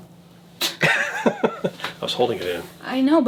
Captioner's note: laughs